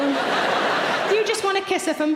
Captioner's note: audience laughing